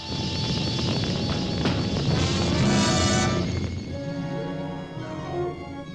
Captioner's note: menacing orchestral accent; flames whooshing; pleasant orchestral music